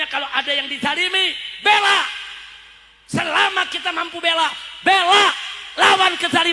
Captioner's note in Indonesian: berteriak